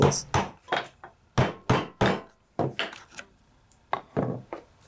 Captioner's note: tools scrape and bang